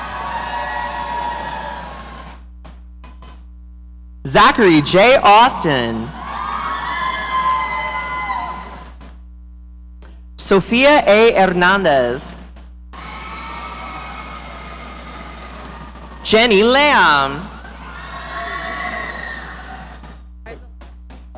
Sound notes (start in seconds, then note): 0.0 audience cheering; 6.0 audience cheering; 12.9 audience cheering